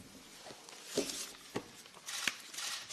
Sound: camera shutter

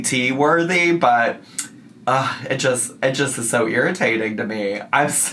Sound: sighs

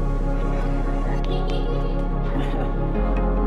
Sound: giggling

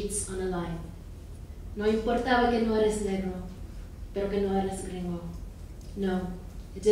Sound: speaking in foreign language

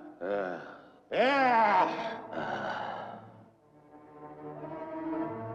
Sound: groans; dramatic music

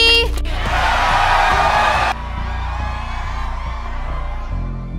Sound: cheering

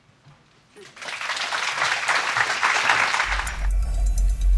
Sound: applause

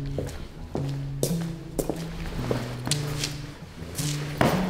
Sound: boots scuff; bag thumps

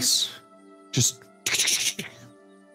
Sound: skittering mouse noises

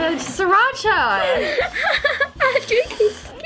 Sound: laughs

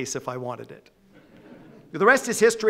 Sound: audience laughing

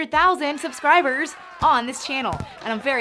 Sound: crowd cheering

